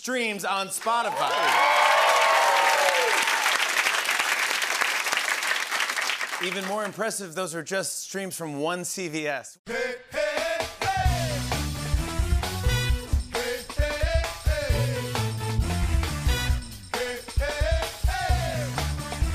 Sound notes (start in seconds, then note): 0.9 cheers and applause